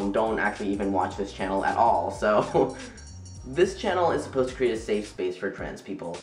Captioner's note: laughs